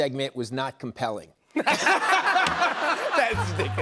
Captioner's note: laughter